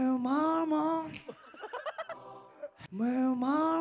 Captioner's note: laughing